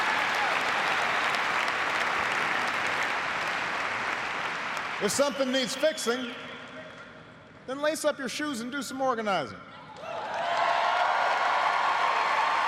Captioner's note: cheers and applause